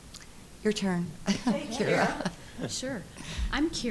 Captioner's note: chuckling